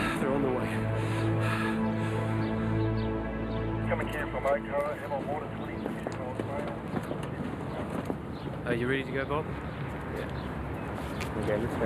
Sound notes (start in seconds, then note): 4.5 faintly speaking; 11.7 faintly speaking